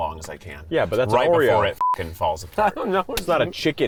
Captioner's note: beep